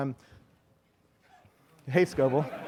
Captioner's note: laughing